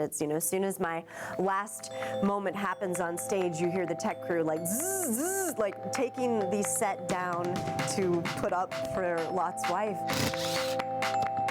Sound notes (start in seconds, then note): 5.1 buzzing; 10.0 drill whirring